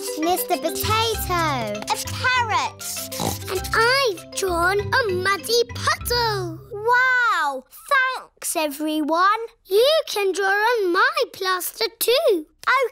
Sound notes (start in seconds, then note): 2.9 snorts